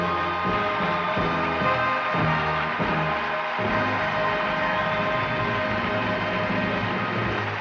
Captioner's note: cheering and applause